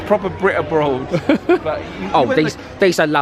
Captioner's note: laughing